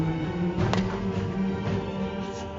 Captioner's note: cricket bat cracks against ball